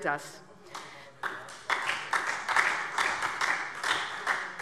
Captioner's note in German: Beifall SPD